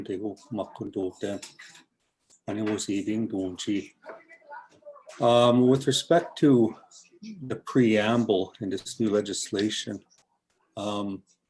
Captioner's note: foreign language